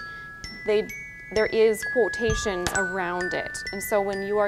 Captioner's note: phone chiming